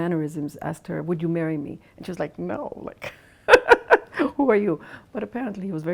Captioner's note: laughs